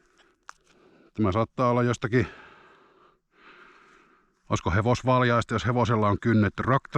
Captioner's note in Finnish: huokaus